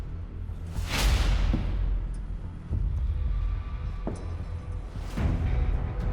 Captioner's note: slow footsteps approach